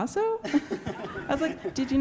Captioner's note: laughter